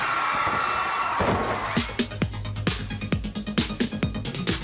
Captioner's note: crowd cheering